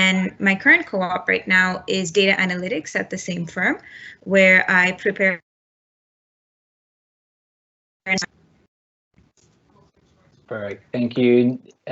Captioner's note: computer feedback